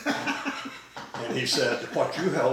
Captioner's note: laughing